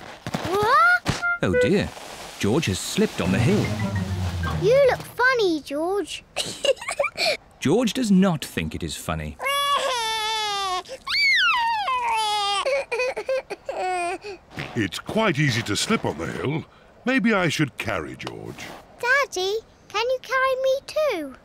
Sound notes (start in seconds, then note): 6.4 giggles; 9.4 cries